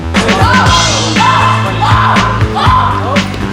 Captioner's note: crowd yelling